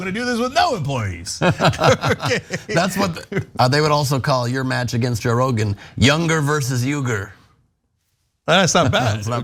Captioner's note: laugh